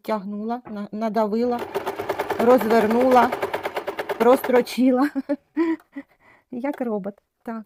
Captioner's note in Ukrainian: сміх